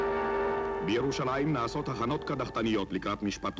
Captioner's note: film narrator, in Hebrew